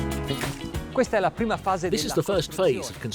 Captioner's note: upbeat music; speaking in foreign language